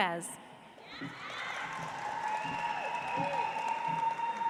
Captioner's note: audience applauds